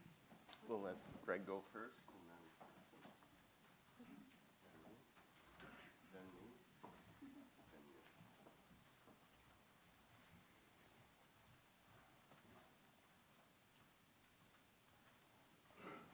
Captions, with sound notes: - We'll let Greg go first and then. (speaking faintly)